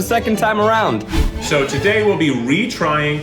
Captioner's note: whoosh